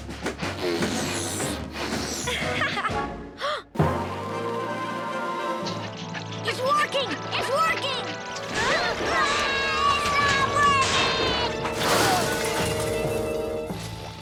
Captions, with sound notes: (Lizbeth laughs) (Lizbeth gasps) (uplifting music) It's working! It's working! (both scream) It's not working!